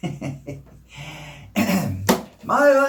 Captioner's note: chuckles